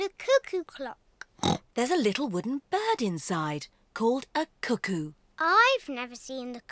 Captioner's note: oinks